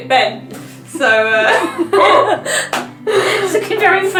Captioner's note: both laugh again